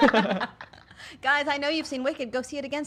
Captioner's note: laughing